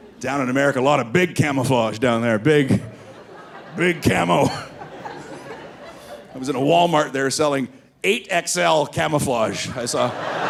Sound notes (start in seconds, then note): 0.0 audience laughing; 3.0 laughs